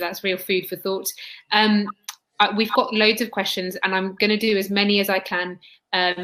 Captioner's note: erm; erm